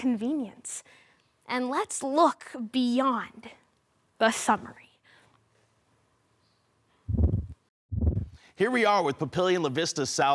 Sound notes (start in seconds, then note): 5.3 silence; 8.0 whoosh